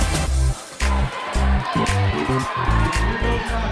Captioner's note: cheering